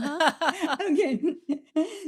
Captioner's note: both laughing